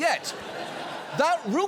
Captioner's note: audience laughing